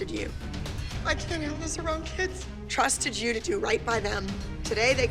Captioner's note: none